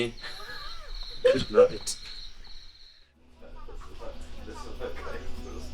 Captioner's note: chuckling